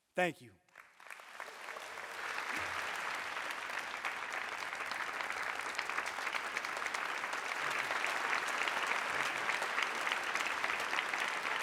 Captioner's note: applause; cheering